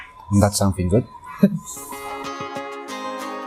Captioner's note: chuckles